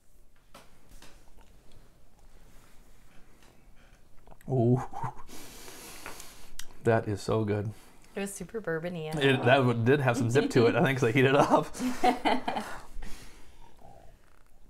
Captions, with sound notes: Ohhh. [deep breath] That is so good. It was super bourbon-y . That one did have some zip to it. I think cause I heated it up . [laughs]